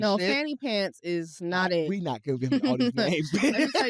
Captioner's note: laughs